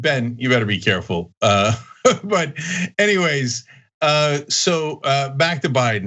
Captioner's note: laugh